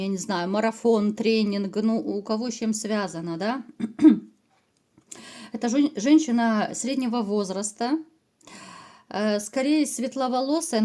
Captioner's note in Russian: откашливается